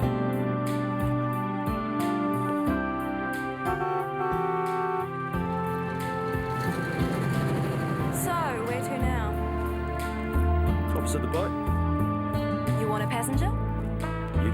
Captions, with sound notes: (van honks) - So, where to now? - Always got the boat. - You wanna passenger?